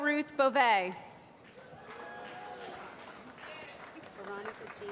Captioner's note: applause